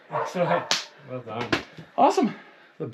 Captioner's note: dog barking; hands slapping